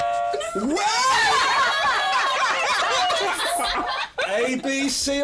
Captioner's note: buzzer; yelling